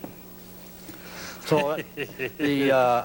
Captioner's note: laughs